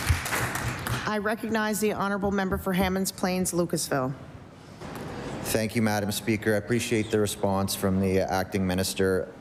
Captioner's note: applause